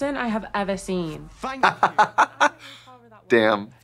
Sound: Trixie chortling

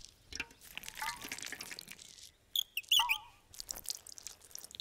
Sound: bird chirping; water trickling

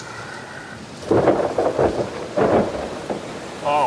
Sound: thunder crashes

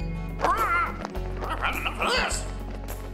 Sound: squawking

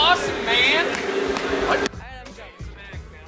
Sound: clapping

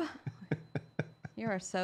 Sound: laughter

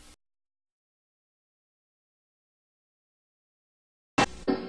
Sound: silence

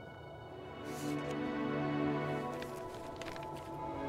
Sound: flipping through pages

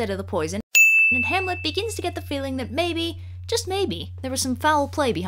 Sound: ding!

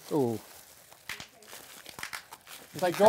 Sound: bubble wrap pops

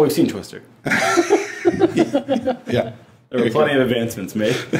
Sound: all laughing

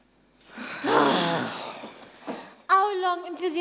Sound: staff groan

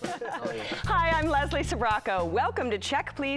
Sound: laughs

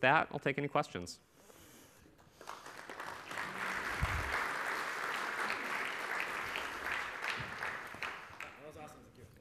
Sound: applause

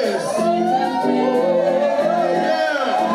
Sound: cheering

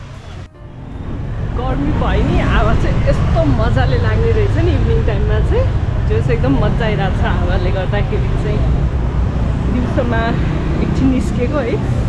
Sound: foreign speech

